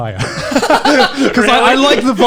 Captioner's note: all laughing